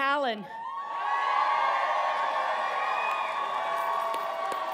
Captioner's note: audience cheering